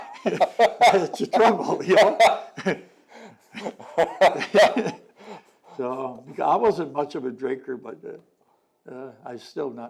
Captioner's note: laughter